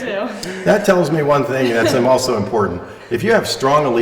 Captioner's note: laughter